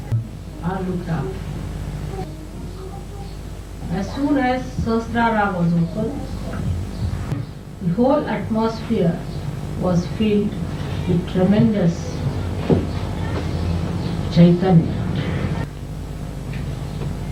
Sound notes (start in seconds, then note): 12.5 vibrations